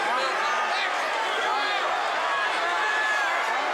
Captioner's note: crowd yelling